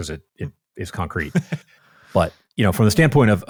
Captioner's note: laughs